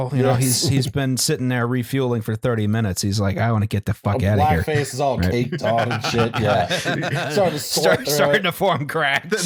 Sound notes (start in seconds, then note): 0.3 chuckles; 5.2 laughs; 8.4 laughing